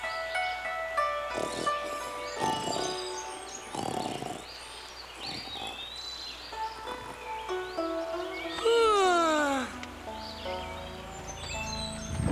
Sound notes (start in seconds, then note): 1.1 snoring; 8.6 yawning